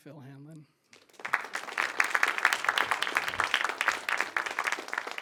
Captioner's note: audience claps